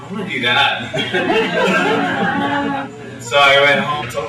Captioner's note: laughter